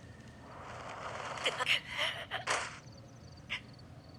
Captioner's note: air whooshing